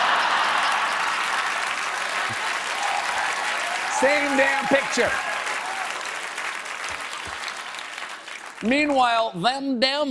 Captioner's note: laughter